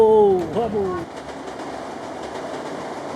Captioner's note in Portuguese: barulho de trem